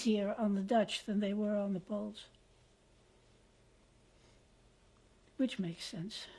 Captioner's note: pauses for 3 seconds